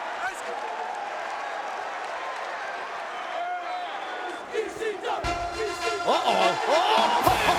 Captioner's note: applause; laugh